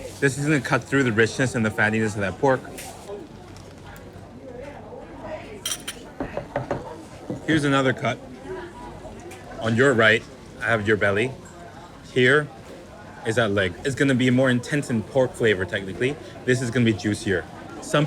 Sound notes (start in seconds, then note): 3.1 people chattering; 5.6 chopsticks clanging; 6.2 fist knocking